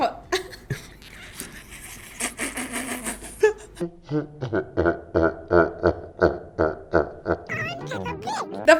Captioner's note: dies of laughter once more